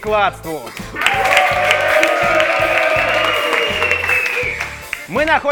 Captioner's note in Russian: Аплодисменты